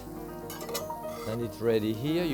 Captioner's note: spatula scraping